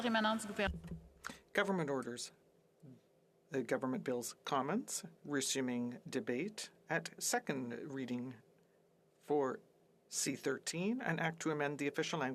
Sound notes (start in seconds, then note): 4.2 speaking French